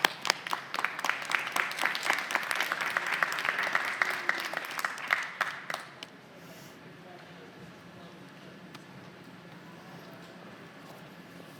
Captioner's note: applause